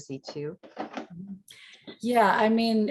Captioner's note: keyboard clanking